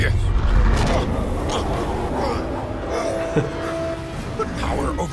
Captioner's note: Dark Yoda grunting